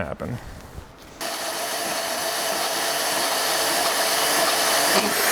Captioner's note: saw buzzing loudly